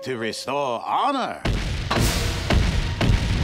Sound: loud stomping

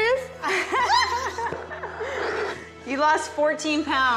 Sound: laughs

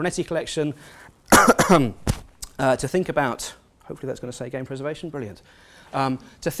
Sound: cough

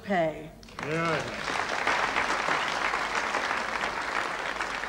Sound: audience applauding

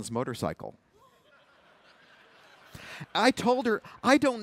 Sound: laughter

